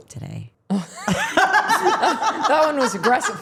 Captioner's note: everyone laughing